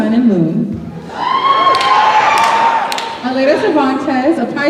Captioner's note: cheering